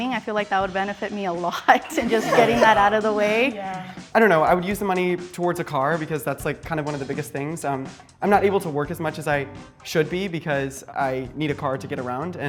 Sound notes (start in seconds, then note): 1.8 all laughing